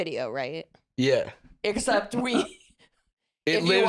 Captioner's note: laughing